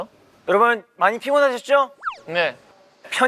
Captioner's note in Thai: เอฟเฟกต์จากรายการวาไรตี้